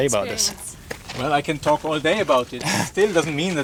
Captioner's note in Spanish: ríe